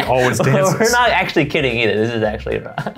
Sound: laughing

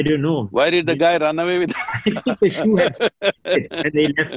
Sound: laughs

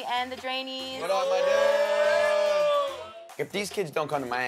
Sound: cheers

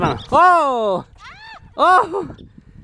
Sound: woman screams

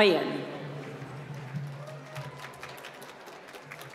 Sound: applause

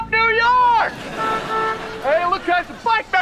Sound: honking

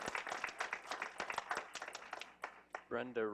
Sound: clapping

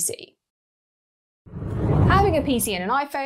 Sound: air whooshes

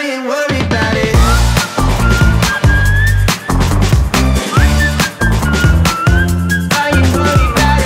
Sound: whistling

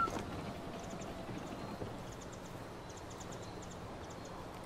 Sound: none

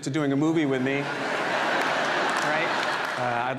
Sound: audience laughs

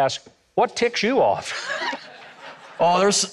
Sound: audience laughing

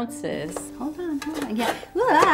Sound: plastic rattles

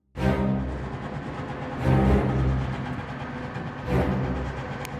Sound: engine revving

